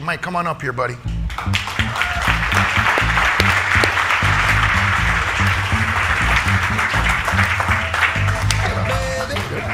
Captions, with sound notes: Mike come on up here, buddy. (audience applauding) (upbeat music)